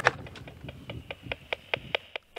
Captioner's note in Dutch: tikkend geluid uit radio